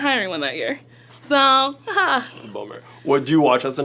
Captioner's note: laughs